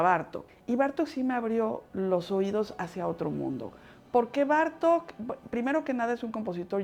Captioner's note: speaking Spanish